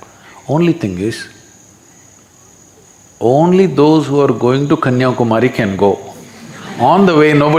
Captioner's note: few laugh